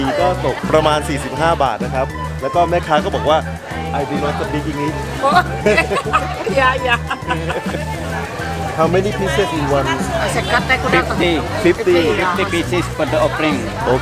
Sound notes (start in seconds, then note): 5.1 laughing